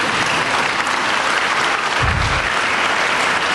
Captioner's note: applause